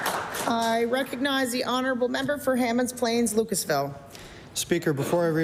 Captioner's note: applause